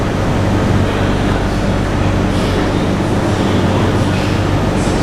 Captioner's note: station Safety Announcement - Chinese